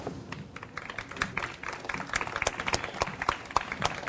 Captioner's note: audience applauds